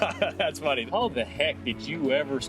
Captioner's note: chucking